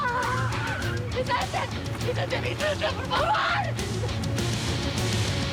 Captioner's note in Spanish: gritos